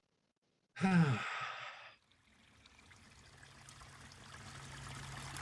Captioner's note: big sigh, water resumes flowing